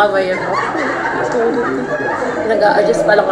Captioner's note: haha